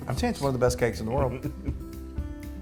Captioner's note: laugh